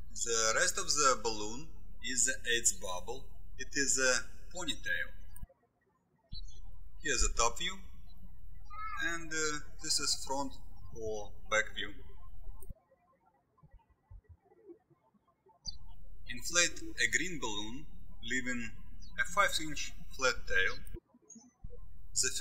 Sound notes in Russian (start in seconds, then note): 12.5 птички щебечут